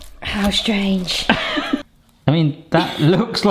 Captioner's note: laughing